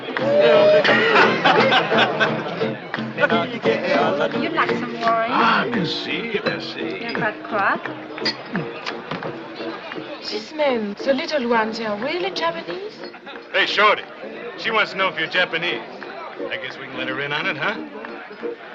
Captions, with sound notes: [LAUGHS] Would you like some wine? Ah, merci. Merci. [SPEAKING IN FRENCH] These men, the little ones, they are really Japanese? Hey, shorty, she wants to know if you're Japanese. I guess we can let her in on it, huh?